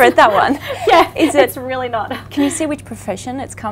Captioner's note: laughs